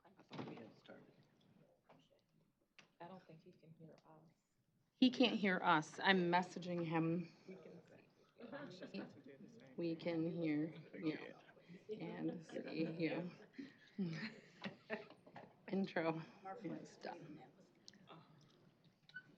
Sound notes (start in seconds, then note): 14.0 laughter